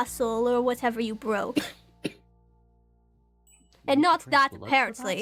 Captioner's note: STONE coughs